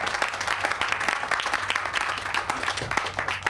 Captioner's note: all applauding